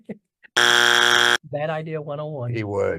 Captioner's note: buzzer blaring